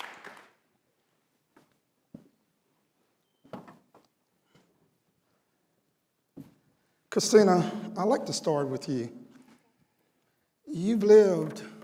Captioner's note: cheering and applause